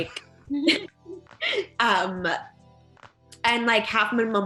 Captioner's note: laughing